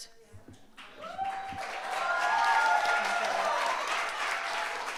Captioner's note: audience applauds